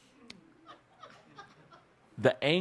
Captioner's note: laughter